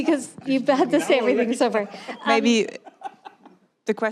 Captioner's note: laughter